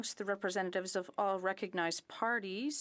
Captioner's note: speaking in French